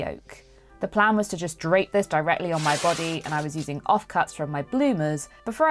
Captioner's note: fabric ripping